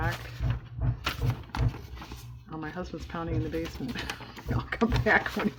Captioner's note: hammering; laughs